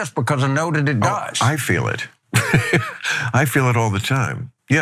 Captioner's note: laugh